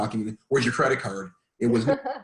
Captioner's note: laughing